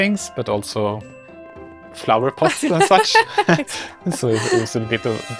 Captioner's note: laugh